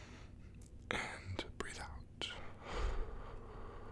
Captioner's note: exhale